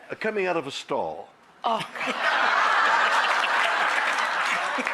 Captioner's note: audience laughs